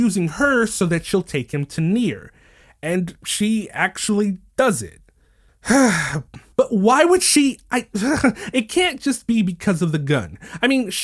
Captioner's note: sigh